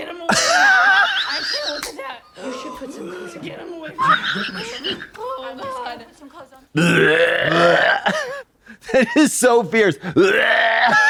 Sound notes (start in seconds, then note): 0.0 Zara dry heaves; 1.6 Katya rasps and claps